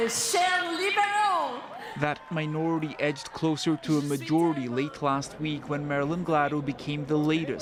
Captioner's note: speaking French